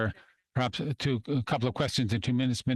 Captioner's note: speaking French